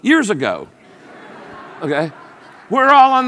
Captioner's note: audience laughs